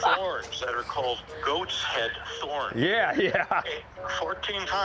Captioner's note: laughs